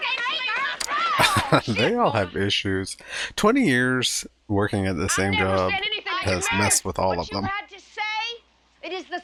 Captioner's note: chuckling